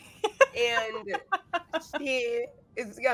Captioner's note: laughing